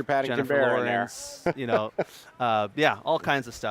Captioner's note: laughing